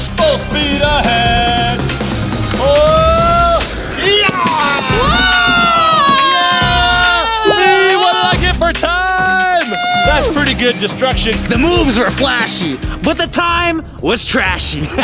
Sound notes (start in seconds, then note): 2.4 yelling; 4.0 cheering